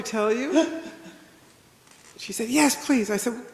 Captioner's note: attendee laughs